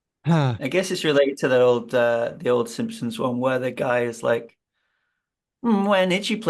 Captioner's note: laughs